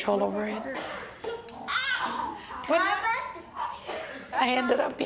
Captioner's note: son chattering